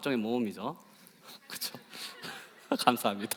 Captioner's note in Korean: 웃음